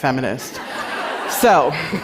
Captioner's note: laughter